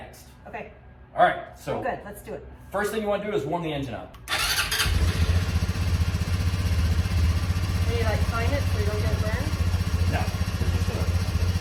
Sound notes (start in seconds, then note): 7.6 engine